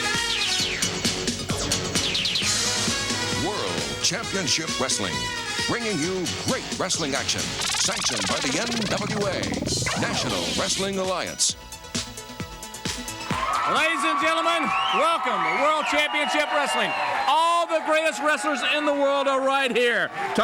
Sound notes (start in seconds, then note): 7.0 graphics blipping; 12.0 upbeat music continues; 14.4 crowd cheering